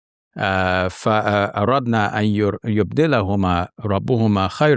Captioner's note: reciting in Arabic